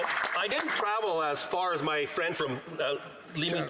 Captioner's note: some Applause